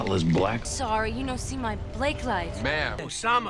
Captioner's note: mocking accent